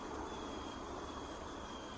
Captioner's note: bird calling